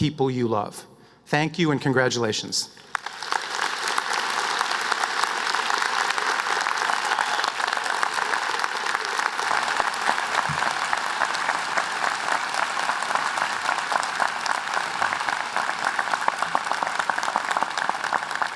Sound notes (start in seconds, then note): 5.0 applause